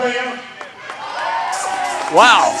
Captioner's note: audience cheering